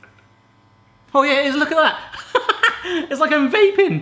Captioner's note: laughing